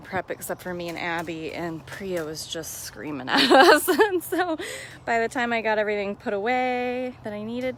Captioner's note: laughs